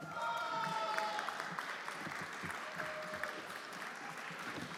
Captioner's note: everyone applauding